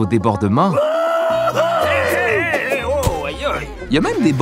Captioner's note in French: exclamations enthousiastes